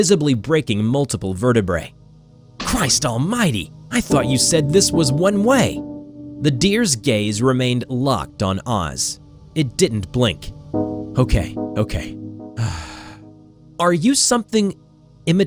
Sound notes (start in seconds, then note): 12.6 exhale